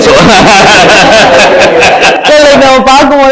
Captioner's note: laughs